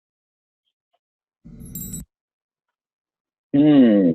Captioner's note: chimes ringing